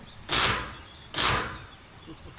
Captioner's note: drill whirring